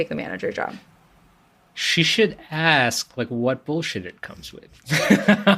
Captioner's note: laughs